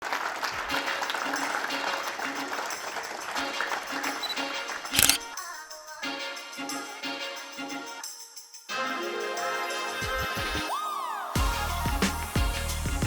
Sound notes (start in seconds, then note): 0.0 people clapping; 1.1 upbeat music; 4.9 camera lens clicking